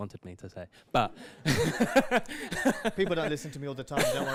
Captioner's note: laughs